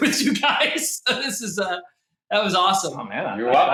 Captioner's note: laughs